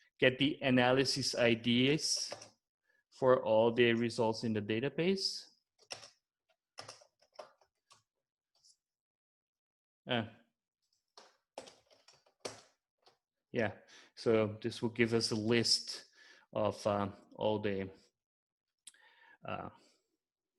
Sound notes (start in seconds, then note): 6.8 typing